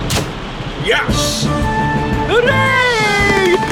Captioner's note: click!